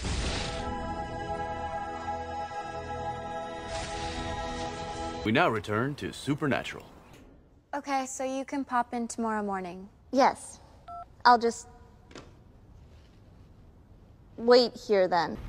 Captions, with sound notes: *Angelic music* (Voiceover) DEAN: We now return to Supernatural. Okay, so you can pop in tomorrow morning. Yes. *Phone hangs up* I'll just...wait here then.